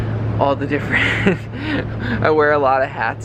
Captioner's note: chuckles